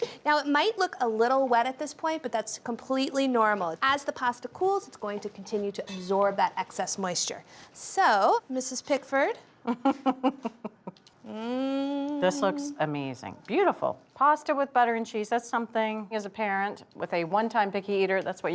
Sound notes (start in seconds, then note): 9.6 laughing